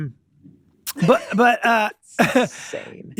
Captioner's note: Glenn laughing